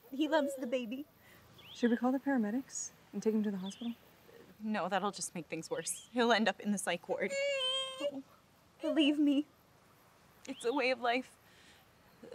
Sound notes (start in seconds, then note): 7.3 baby cries